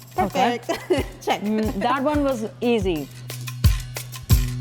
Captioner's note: laughs